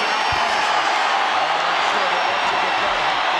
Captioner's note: audience cheering